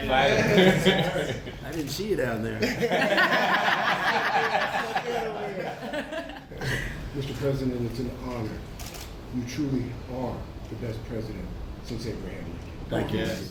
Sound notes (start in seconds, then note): 2.6 laughter